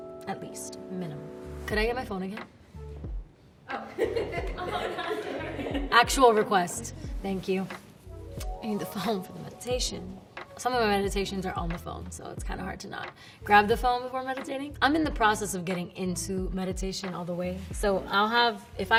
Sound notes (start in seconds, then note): 3.7 people laughing